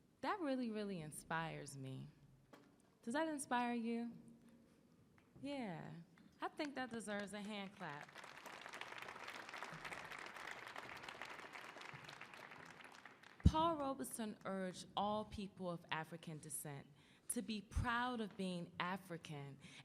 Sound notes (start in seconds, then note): 7.5 claps; 7.7 audience applauding